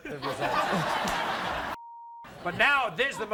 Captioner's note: audience laughs